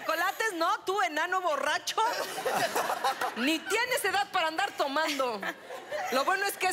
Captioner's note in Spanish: Risas